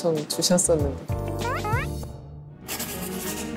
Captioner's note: hehe